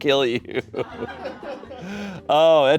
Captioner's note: laughs; audience laughing